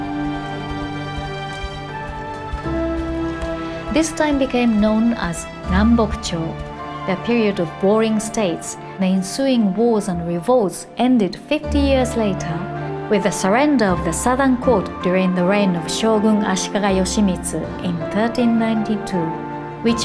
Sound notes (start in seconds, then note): 5.2 speaking Japanese